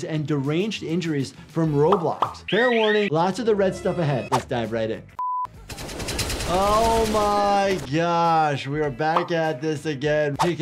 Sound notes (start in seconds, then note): 2.5 alarm wailing; 5.2 beep; 5.6 gun firing